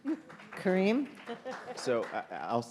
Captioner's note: audience applauding